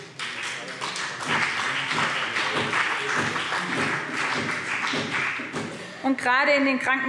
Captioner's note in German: Beifall BÜNDNIS 90/DIE GRÜNEN und CDU